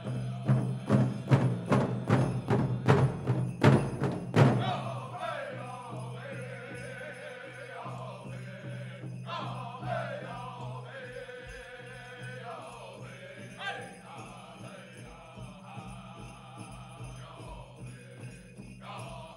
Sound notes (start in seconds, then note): 0.0 drum beating intensely then gently; 5.9 regalia ornaments jingling